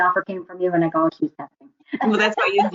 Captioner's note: laughs